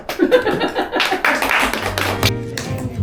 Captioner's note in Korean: 짝짝짝